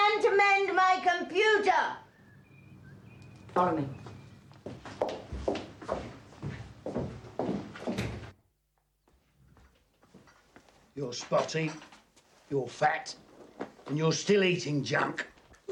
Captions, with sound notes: - It's a man to mend my computer! Follow me. (footsteps approaching) (door banging) - You're spotty, you're fat and you're still eating junk.